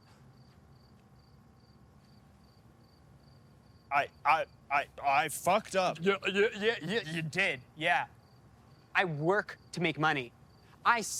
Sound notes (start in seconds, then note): 4.2 stammering; 6.6 stammering mockingly